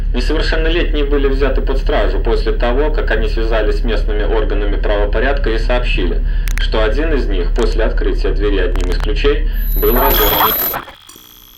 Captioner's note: static